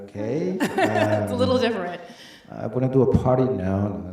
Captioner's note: laughs